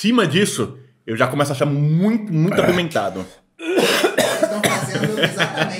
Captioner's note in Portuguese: tosse